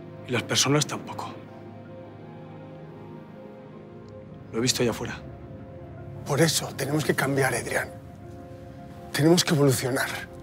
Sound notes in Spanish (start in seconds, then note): none